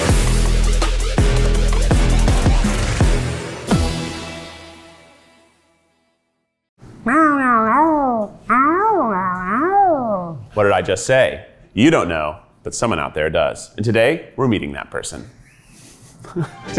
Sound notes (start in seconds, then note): 0.3 upbeat music; 7.0 imitating a dog talking; 15.9 chuckles